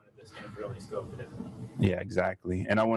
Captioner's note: audience members speaks from a distance